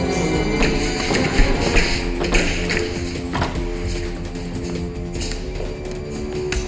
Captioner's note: Katie groaning; door rattling